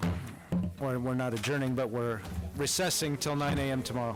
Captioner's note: gavel